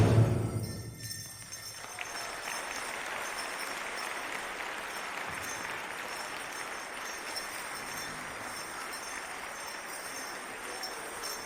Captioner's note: applause